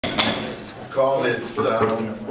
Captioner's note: gavel banging